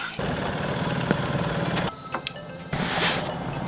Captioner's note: engine rumbling